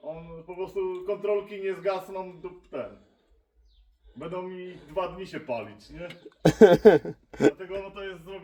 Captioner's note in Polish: śmiech